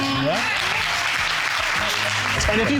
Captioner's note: audience applauds